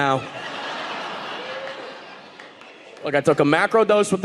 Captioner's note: audience laughing